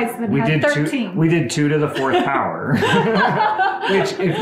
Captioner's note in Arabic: كلاهما يضحك